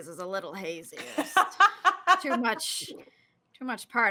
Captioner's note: laughs